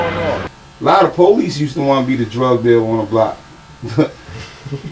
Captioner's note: laugh